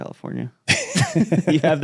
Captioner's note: laughing